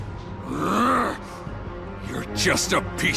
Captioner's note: Abbacchio growls